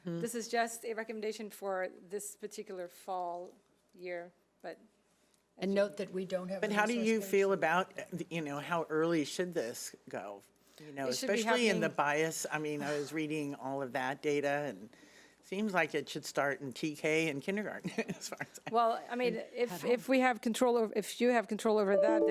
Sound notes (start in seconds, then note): 17.9 chuckles